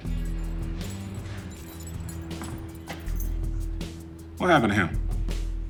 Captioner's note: keys jingling